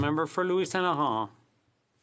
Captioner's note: speaking French